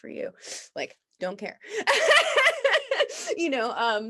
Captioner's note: laughs